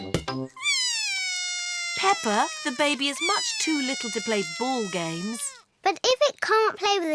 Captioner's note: bawls